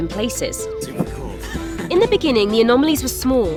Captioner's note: laughs